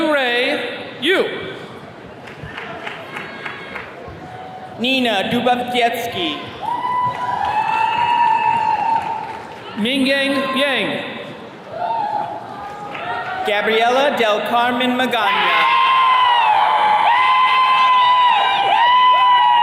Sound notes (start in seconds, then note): 2.2 attendee clapping; 6.3 attendees cheering; 15.2 attendees cheering